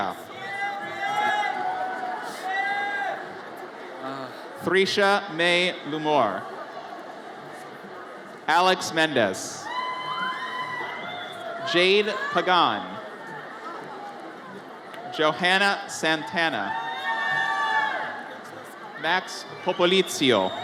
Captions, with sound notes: (audience cheers) Thrisha Mae Lumor. Alex Mendez. (audience cheers) Jade Pagan. Johanna Santana. (audience cheers) Max Popolizio.